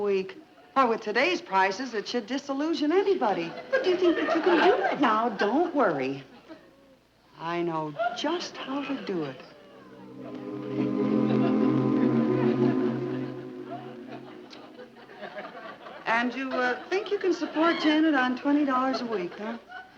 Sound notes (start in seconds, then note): 12.6 audience chuckling